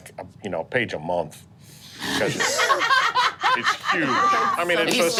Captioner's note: group laughing